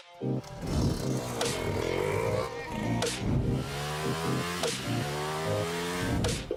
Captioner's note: engine revving